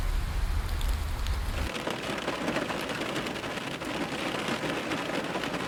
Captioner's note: rain tapping